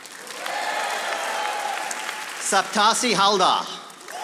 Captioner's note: audience applauding